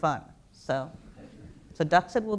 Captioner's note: light laughter